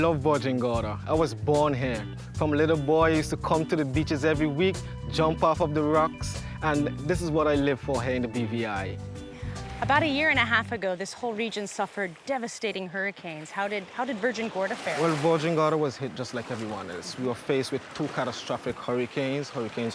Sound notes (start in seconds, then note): none